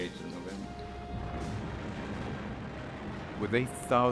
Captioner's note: explosions roar